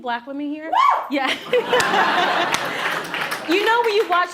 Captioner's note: laughs